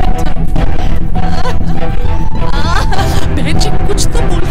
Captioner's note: Aruna crying